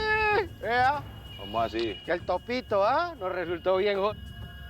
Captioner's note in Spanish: Exclamaciones